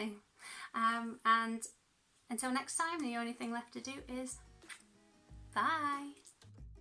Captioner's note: kiss